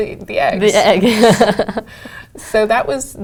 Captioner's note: laugh